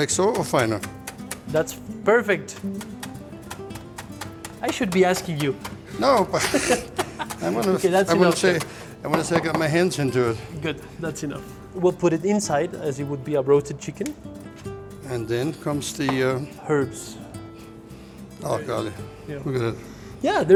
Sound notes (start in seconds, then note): 6.1 laughs